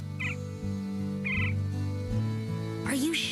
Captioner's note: woodpecker chirping